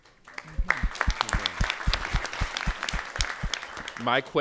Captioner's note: applause